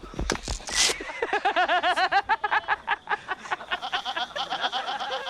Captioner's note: kahkaha